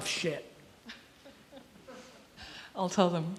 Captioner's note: chuckles softly